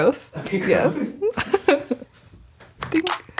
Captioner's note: chuckling